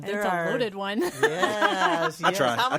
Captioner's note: all laughing